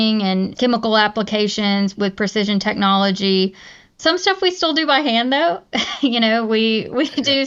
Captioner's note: laughs